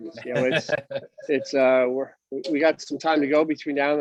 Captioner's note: laughs